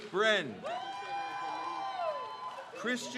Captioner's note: crowd cheers